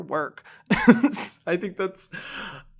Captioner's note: laughs